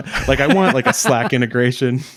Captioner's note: laughing